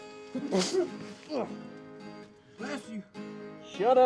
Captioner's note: Isaac sneezes and grunts